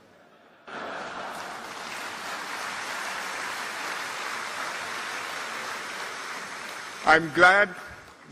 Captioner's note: laughter and applause